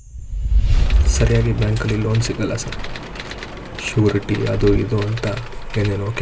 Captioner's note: man speaking foreign language